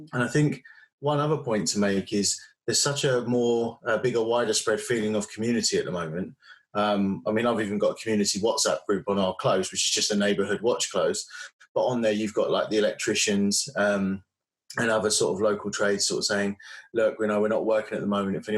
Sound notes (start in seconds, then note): none